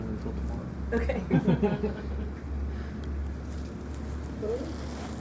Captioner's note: group laughing